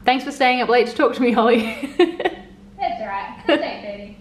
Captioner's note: chuckling